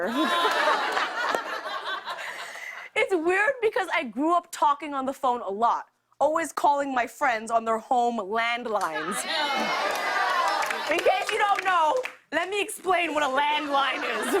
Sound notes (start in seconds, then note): 0.0 laughter; 9.0 audience cheering